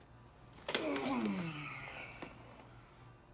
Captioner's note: groans